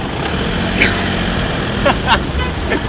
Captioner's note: laughing